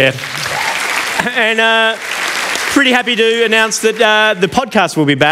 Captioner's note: applause